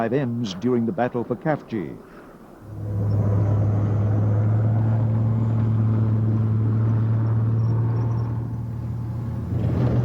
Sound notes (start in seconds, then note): 2.2 tanks rumbling